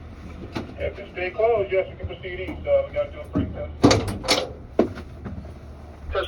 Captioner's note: radio chatter